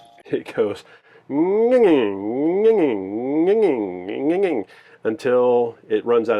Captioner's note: makes whirling sound